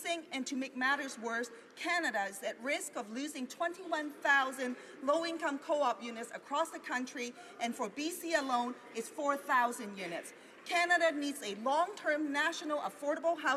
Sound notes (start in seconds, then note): none